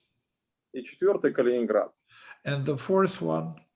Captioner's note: speaking Russian language